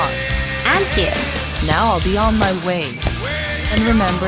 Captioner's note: footsteps